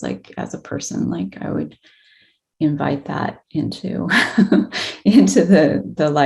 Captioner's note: chuckles